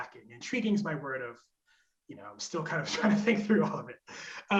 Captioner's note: chuckles